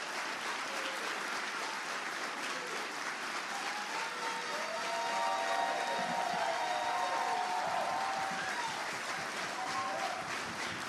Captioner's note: applause